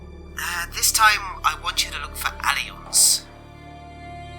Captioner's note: Thomas on radio